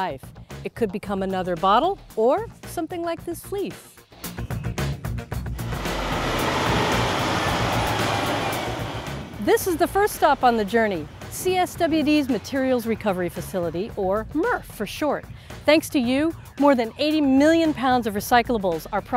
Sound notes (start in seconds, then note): 5.4 truck engine revving